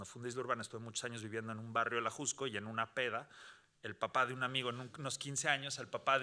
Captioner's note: speaking Spanish continues